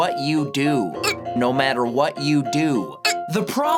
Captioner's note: hiccup; hiccup